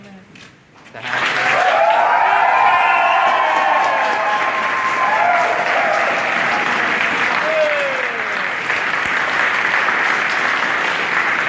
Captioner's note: applause, ovation